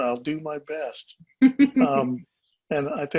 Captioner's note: laughing